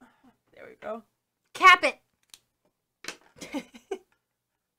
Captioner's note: caps pen, chuckling